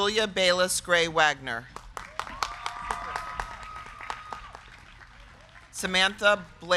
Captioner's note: crowd clapping; crowd cheering